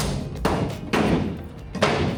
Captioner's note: banging